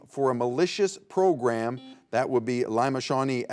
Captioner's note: buzzer beeps